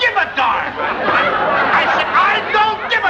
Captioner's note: laughter